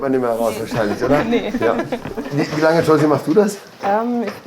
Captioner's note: laugh